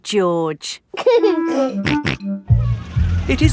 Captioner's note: giggling and snorting